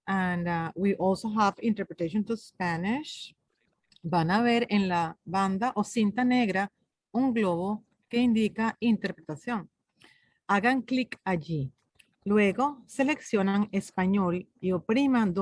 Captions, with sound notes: And we also have interpretation to Spanish. (speaks in foreign language)